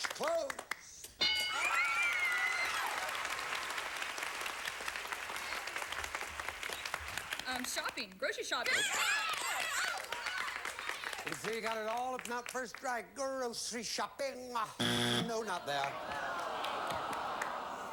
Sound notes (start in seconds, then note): 3.4 audience applauding